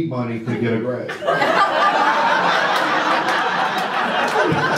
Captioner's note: audience laughter